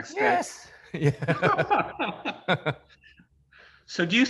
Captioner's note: both laughing